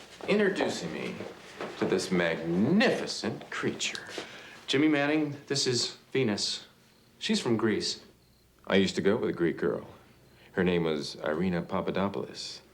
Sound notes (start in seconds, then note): none